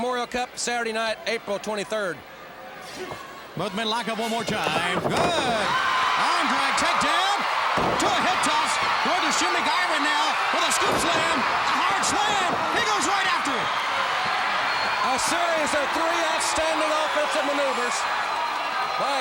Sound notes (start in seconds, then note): 13.8 crowd cheering